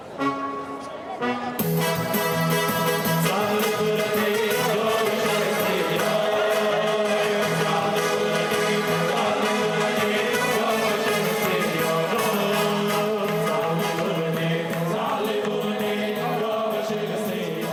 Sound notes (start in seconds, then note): 0.2 upbeat music; 3.2 musicians speaking in foreign language